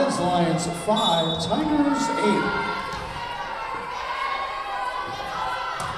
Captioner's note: whistle blowing